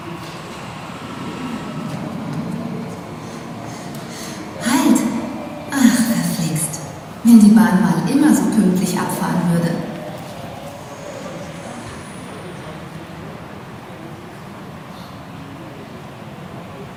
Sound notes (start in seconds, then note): 3.6 slightly out of breath